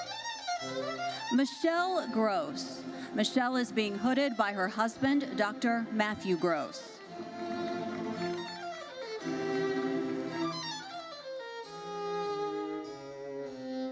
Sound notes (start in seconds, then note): 7.2 audience applauding; 9.4 lively uplifting music continues